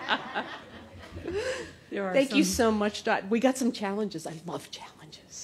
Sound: laughter

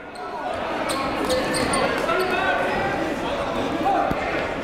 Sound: crowd talking

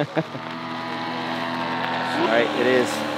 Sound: chuckling

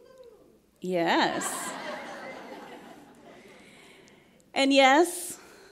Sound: laughs

